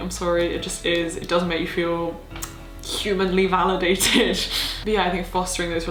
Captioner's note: laughing